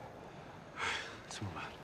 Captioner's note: sigh